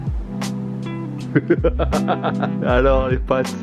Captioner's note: evil laugh